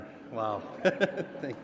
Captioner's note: laughter